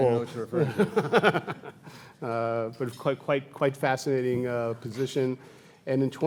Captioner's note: laughs